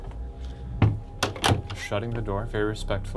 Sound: doorknob rattles

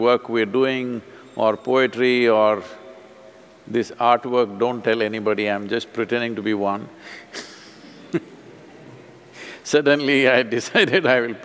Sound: laughs

